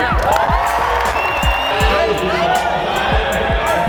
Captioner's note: audience cheers